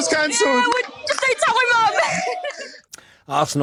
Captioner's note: laughs